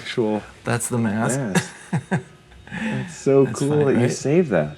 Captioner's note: laughs